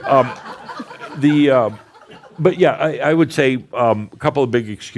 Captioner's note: more laughter